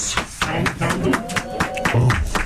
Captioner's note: applause